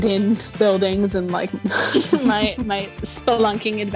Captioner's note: woman laughing